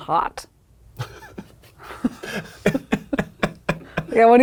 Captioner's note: laughing